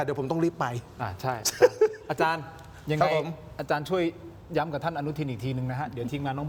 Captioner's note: laughs